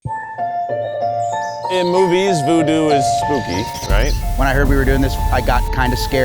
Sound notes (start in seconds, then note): 0.0 mystical music; 0.8 birds chirping